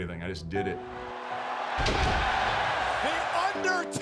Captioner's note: gentle music; crowd cheering